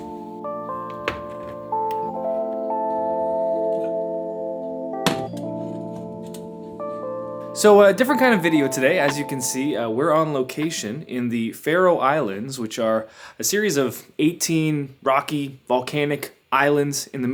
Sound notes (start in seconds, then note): 5.2 kettle thuds